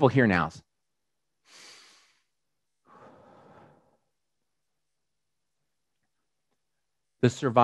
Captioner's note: breathes deeply